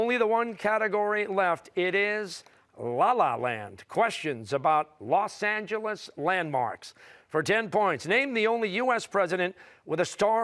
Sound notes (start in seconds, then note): none